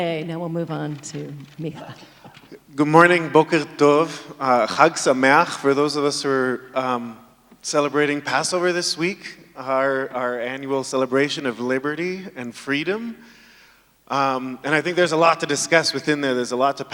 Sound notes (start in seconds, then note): 3.9 speaking in foreign language